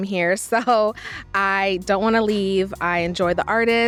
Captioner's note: laughs